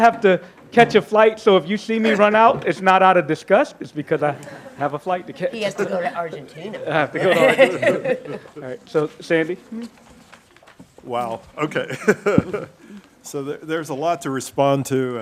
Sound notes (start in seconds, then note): 7.2 laughing; 11.7 laughs